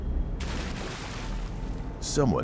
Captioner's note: water splashes